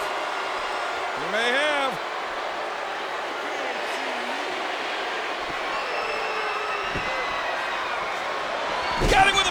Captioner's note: applause